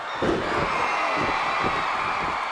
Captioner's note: crowd cheers; body thuds